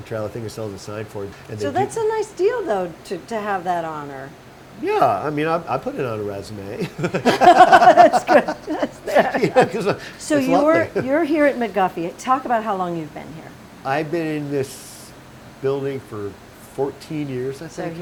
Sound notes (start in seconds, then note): 6.7 laughing